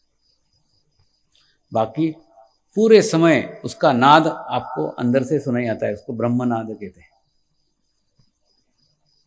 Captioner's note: cosmic sound